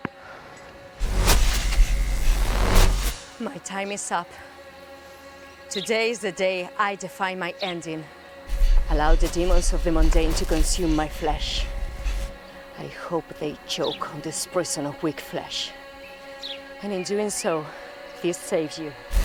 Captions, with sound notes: (electricity buzzing) My time is up. Today's the day I define my ending. Allow the demons of the mundane to consume my flesh. I hope they choke on this person of weak flesh. And, in doing so, we save you.